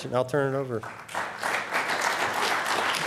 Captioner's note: applause